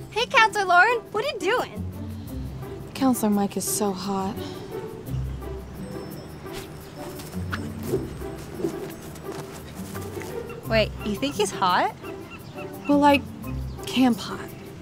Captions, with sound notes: Hey, Counselor Lauren! What are you doing? Counselor Mike is so hot. *yo-yo sounds* Wait, you think he's hot? Well like "camp hot."